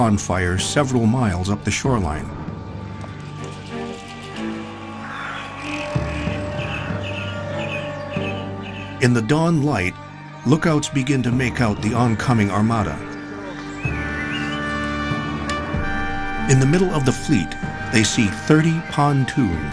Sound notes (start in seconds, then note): 4.5 birds calling